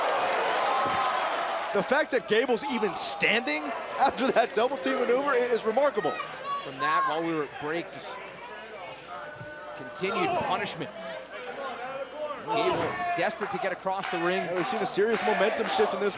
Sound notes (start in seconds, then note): 2.3 crowd cheering